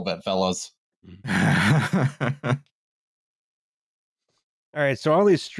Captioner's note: chuckles